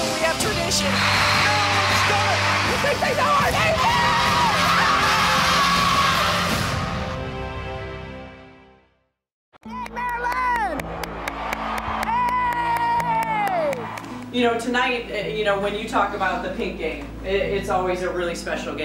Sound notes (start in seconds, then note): 3.3 shouting